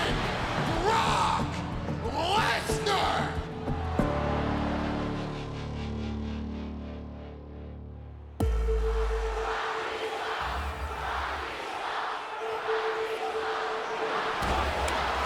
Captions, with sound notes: Brock Lesnar. (dramatic music) (crowd chanting)